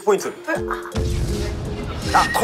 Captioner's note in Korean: 폭탄 폭발